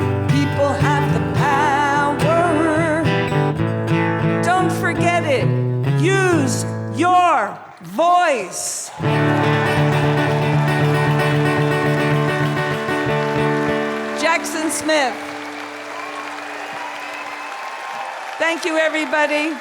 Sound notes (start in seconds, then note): 9.0 acoustic guitar; 9.4 cheers and applause; 15.7 cheers and applause